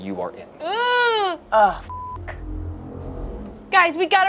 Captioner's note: beeps